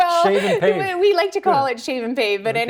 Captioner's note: laughter